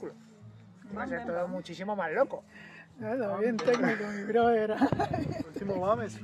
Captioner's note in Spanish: risas